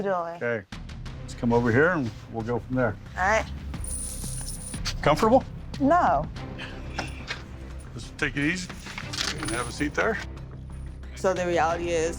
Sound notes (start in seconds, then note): 3.8 handcuffs jingling